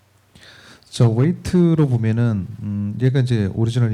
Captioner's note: speaking korean